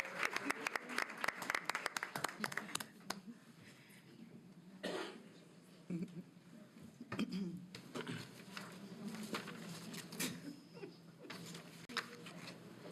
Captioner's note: applause